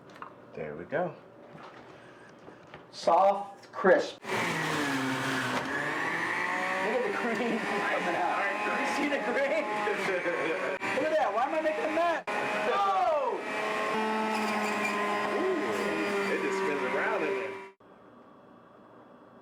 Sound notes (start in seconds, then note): 4.9 juicer whirs